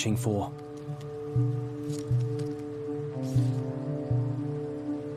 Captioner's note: claws scrabbling